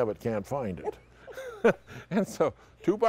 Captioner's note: laugh